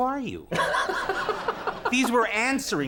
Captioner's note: Conan and the audience laugh